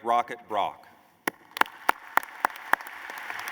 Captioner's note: applause